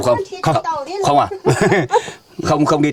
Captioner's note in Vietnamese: tiếng cười